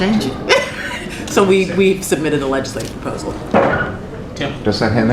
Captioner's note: laughter